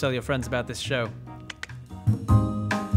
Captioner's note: click click